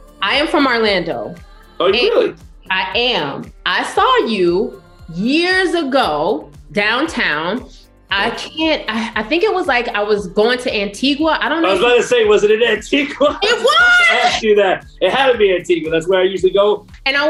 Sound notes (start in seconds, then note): 11.6 laughing